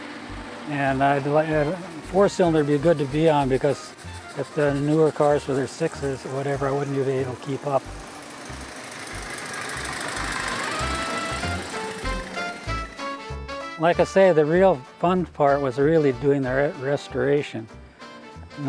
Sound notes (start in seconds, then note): 9.3 car engines rumbling; 9.7 upbeat music continues